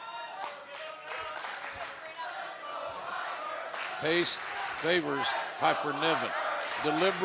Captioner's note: fans chanting